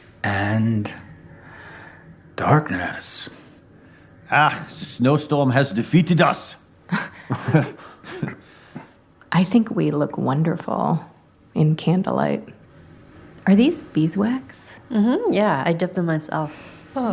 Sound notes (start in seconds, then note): 4.2 with German accent; 6.9 chuckling